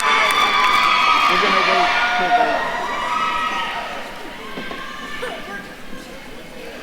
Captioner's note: cheering drowns out faculty member